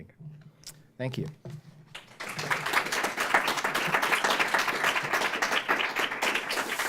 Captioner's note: applause